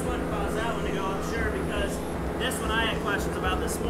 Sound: machine whirs; engine roars

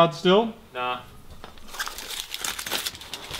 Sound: paper rustling

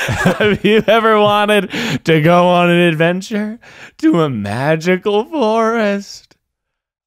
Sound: laughing

